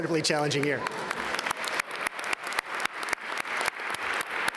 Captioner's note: all applaud